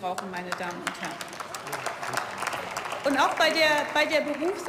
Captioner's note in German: Beifall